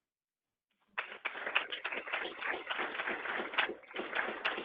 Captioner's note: people clapping